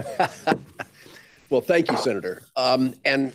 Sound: chuckles

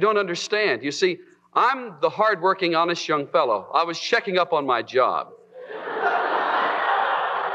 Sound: laughter

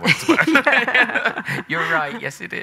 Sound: both laughing

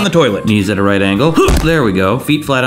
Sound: grunts

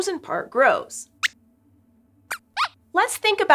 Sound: squeaks squeaks

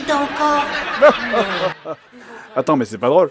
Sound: fake laughs

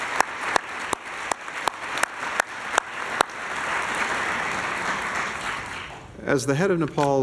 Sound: applause

